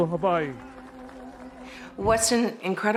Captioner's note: applause, cheers